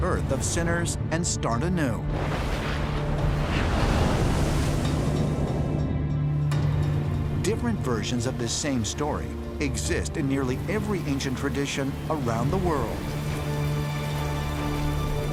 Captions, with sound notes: of sinners and start anew. [thunder] Different versions of the same story exist in nearly every ancient tradition around the world.